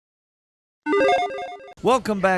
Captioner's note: electronic chiming